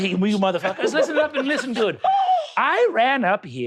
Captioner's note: gasping